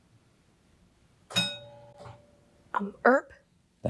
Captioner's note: bell rings